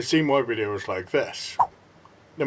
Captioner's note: swipe Sound